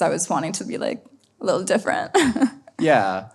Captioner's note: laughs